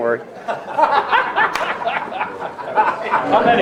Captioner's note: all laughing